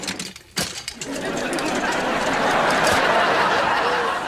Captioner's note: audience laughter